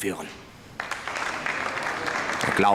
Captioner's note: applause